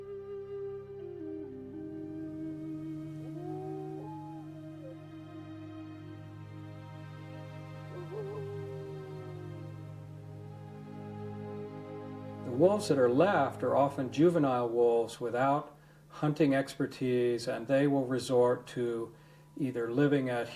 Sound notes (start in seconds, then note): 3.6 somber music; 3.6 wolf howling